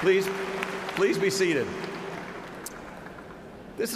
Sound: cheers and applause

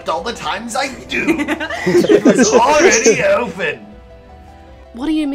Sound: laughter

